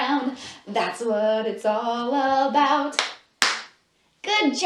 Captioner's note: clap, clap